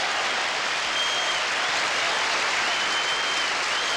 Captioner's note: cheering